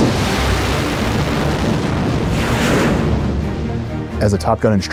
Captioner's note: jet engine roaring